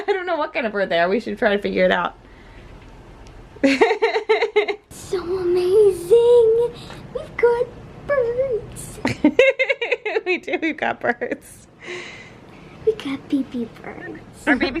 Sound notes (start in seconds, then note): 0.0 laughs; 3.6 laughs; 9.0 laughs